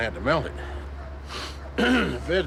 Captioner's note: ahem